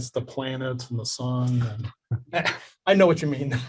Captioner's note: chuckles